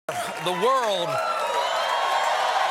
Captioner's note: cheers and applause